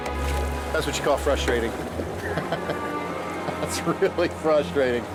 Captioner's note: chuckles